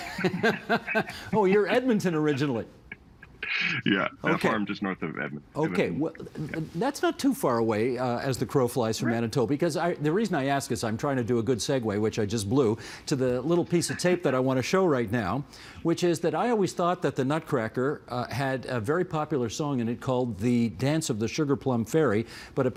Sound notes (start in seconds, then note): 4.3 transmission difficulty